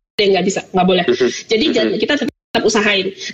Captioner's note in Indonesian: Tertawa